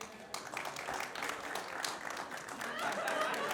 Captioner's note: scattered applause; laughter